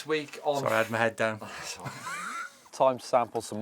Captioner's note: scoffs